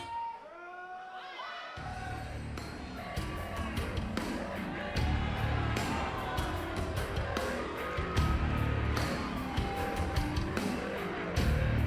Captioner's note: crowd cheering